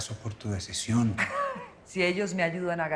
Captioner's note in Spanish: Risas